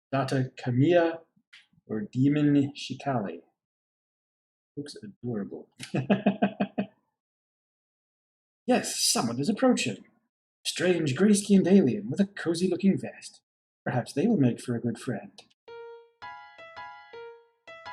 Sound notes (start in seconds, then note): 5.8 chuckles